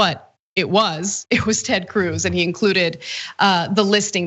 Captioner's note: laugh